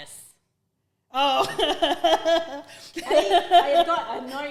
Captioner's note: laughing